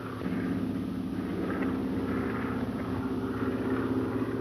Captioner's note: airplane engine roaring